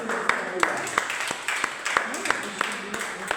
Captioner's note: applause